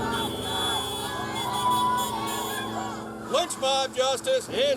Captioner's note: horn honks